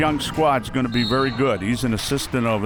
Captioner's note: whistle